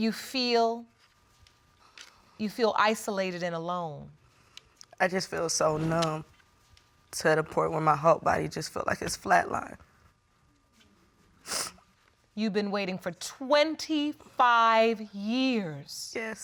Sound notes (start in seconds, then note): 11.4 sniffles